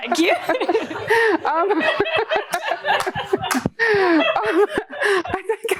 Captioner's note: laughter